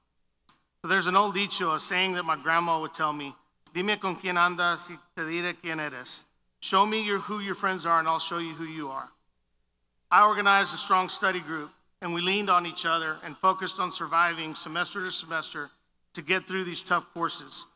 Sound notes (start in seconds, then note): 4.5 foreign language